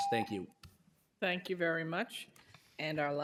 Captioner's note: timer tone